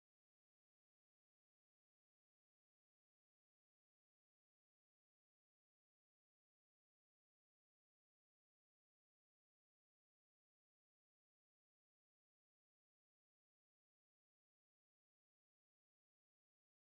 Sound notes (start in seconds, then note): none